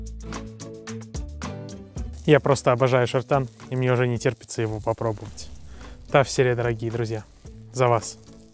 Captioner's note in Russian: Что-то на Чувашском